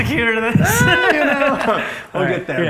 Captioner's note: laughs